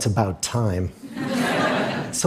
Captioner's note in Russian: Смех